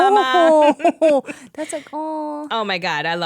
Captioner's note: laughing